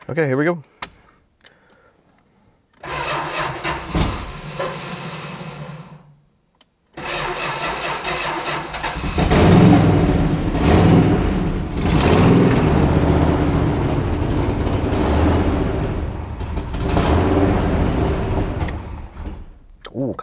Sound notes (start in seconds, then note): 2.8 ignition stutters; 9.6 engine purrs; 18.8 engine quits